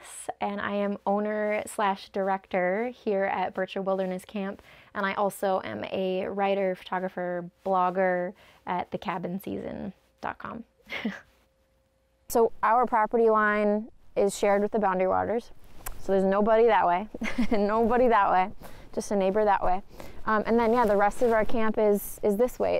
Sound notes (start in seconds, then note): 10.9 chuckles